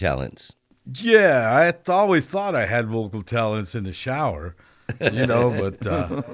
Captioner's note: laughter